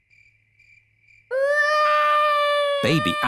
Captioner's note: baby alexander crying